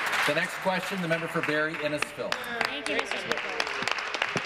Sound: applause

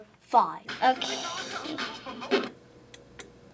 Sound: record scratches, music stops

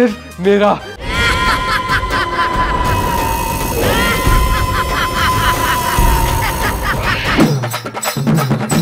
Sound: scary voice

